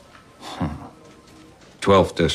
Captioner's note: chuckles